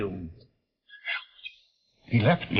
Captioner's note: Chumley whispering